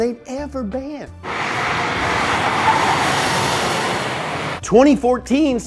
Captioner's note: tires screeching